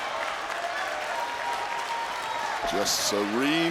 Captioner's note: crowd applauds